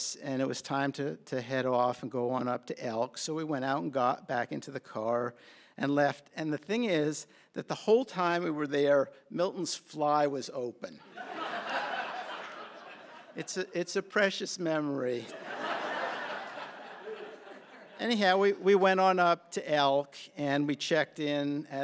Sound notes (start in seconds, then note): 11.0 laughter; 15.2 laughter